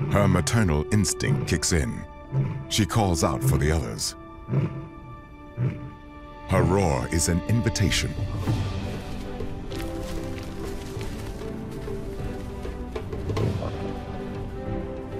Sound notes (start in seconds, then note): 4.4 lioness roars; 9.0 triumphant music plays